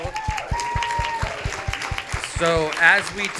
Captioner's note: audience applauding